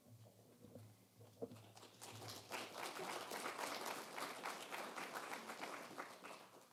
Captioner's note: applause